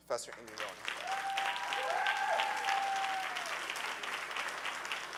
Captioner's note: audience cheering